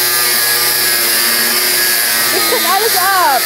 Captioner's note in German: Maschinenlärm